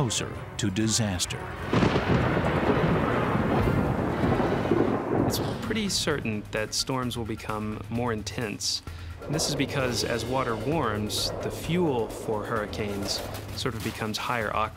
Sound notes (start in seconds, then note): 4.4 thunder crashes